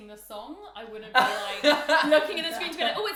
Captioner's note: laughing